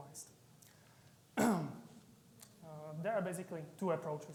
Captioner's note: clearing his throat